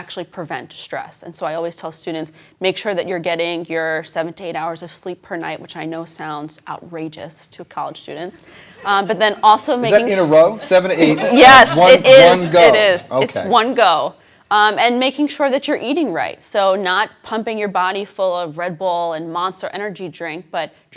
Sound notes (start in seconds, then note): 11.4 laughter